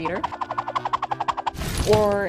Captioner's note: squirrel whooshing